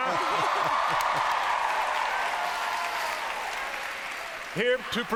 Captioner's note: applause